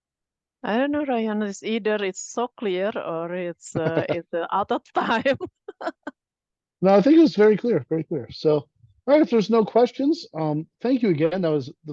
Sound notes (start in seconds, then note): 5.0 laughter